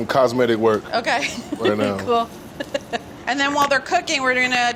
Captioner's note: laughs